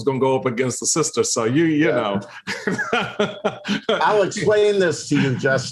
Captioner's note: laughs